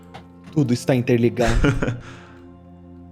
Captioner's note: laughter